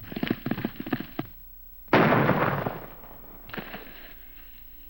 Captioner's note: gunshot